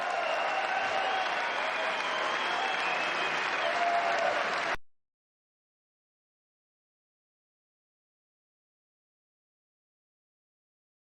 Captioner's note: cheers and applause